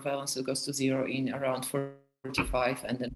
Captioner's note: audio distorts